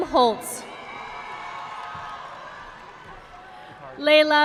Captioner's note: audience applauding